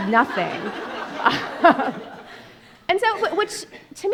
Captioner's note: audience laughing